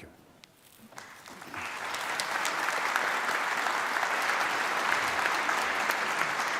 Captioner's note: applause